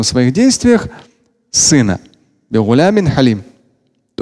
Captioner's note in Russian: Говорит на арабском